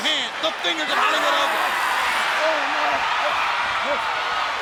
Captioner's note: Sting screams